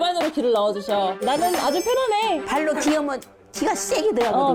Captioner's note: familiar sound effect